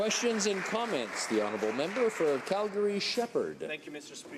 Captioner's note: some Applause